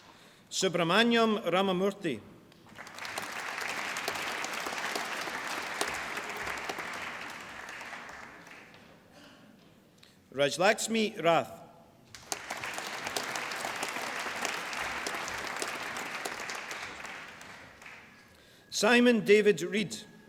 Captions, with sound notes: Subramaniam Ramamurthy. (APPLAUSE) Rajlaxmi Rath. (APPLAUSE) Simon David Reid.